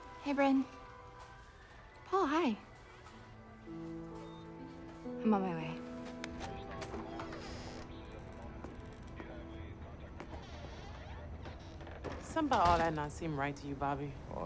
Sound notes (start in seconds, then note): 3.9 gentle tense music; 6.2 door latch clicks; 6.4 hinges squeaking